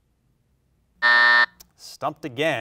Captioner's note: alarm buzzes